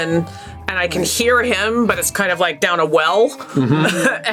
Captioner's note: chuckles